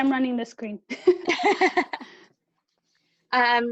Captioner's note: laughing